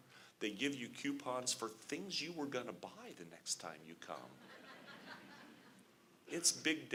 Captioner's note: laughter